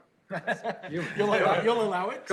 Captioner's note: laughter